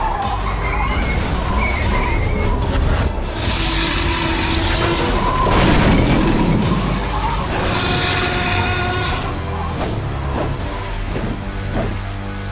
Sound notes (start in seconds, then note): 0.0 dinosaur roars; 0.2 tires screeching; 3.3 dinosaur roars; 6.6 sparks sizzle; 7.2 dinosaur roars